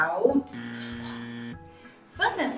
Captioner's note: buzzer buzzes